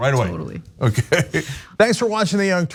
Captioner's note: laugh